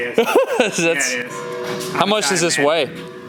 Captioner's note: laughs loudly